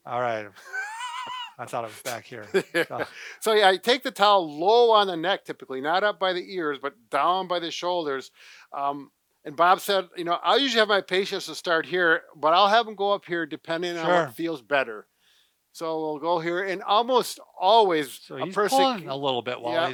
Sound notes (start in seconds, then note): 0.6 laughs